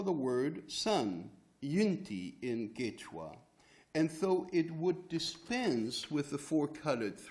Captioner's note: non-english speech